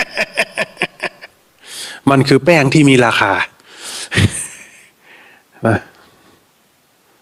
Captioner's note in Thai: เสียงหัวเราะ